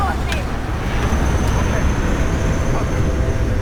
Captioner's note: rumbling